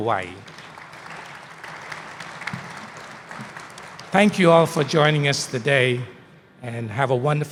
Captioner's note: applause